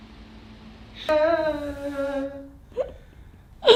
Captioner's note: moans